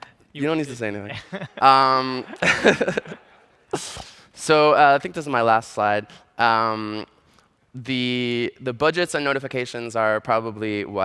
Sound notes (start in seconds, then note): 1.1 laughter